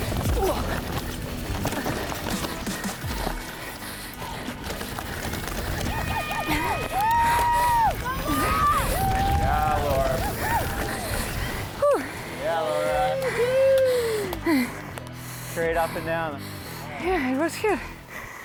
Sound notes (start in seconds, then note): 12.5 breathing heavily